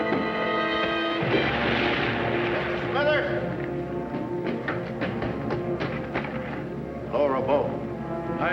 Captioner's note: water splashes